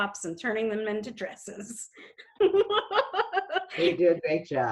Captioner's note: giggles